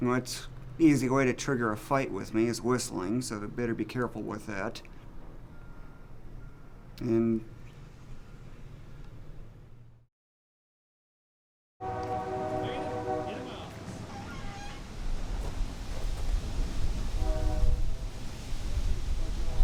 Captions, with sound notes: And that's a easy way to trigger a fight with me, is whistling. So they better be careful with that. (train whistle blowing)